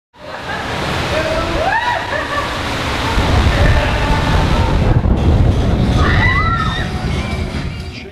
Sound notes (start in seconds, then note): 1.7 laughing; 5.9 screams